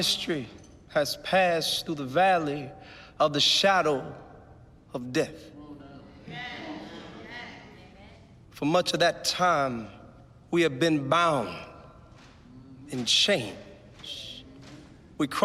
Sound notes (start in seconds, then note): 5.6 crowd murmurs in agreement